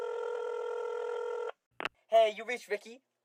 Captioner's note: phone ring; phone click